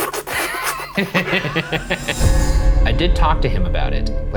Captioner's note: mock sucking sounds; laughing